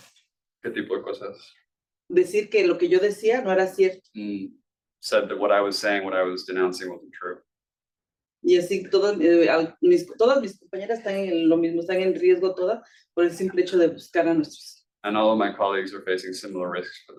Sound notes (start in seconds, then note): 2.3 speaking Spanish; 8.5 speaking Spanish